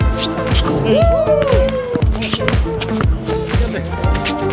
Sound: players cheer

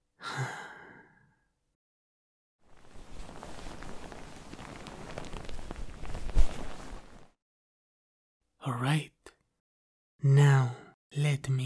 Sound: sound of sheets

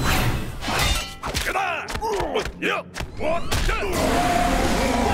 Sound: grunting

